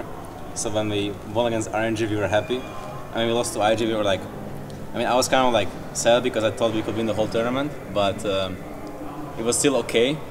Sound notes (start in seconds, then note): none